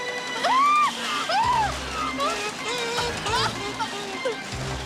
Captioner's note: woman gasps; woman yelling fearfully